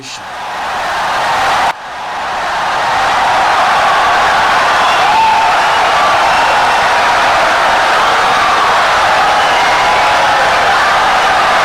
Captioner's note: wild applause and cheering for 17 seconds